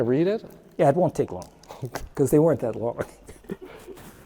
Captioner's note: chuckles